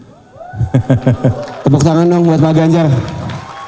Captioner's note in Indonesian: tepuk tangan